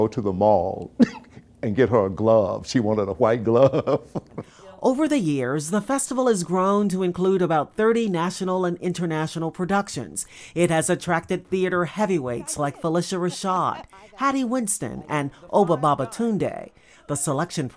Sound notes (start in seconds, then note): 7.1 laughter